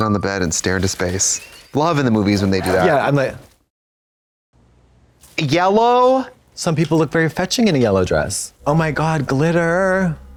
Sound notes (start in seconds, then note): 0.4 Katya crinkles